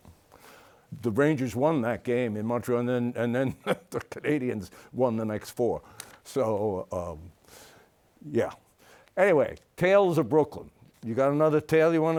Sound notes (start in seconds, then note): 3.4 chuckles